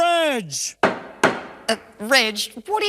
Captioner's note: gavel banging